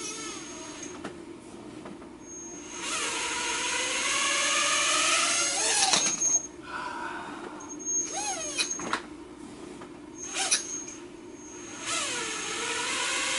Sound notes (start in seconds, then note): 0.6 sigh; 0.6 whurrrringggg